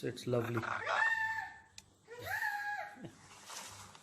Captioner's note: imitating sounds